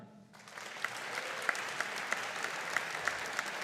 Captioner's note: audience applauding